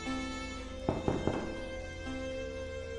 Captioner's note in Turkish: Kapı tıklatması